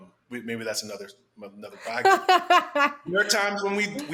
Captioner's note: laughs